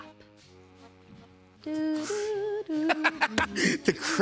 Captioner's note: vocalizes theme; laughs